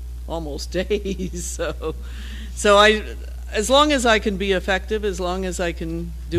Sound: laugh

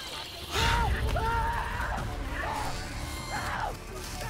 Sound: screams

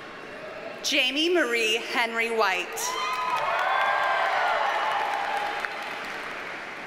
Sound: audience cheers and applauds

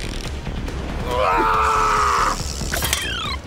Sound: grunting

